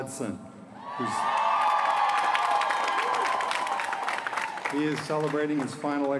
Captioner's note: applause